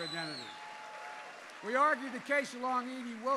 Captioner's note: applause